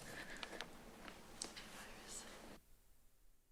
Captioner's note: rustles